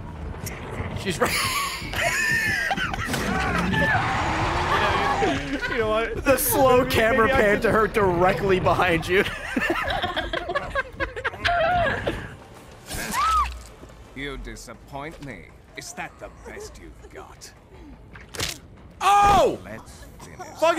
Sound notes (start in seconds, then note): 4.6 laughs; 10.9 laughs